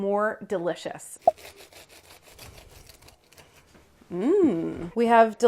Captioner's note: plop; bread crunching